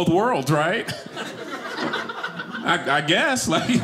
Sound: audience laughing

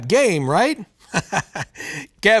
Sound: chuckles

